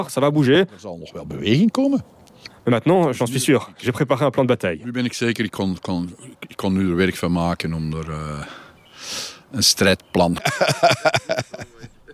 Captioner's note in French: rires